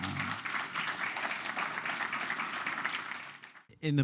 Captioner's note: applause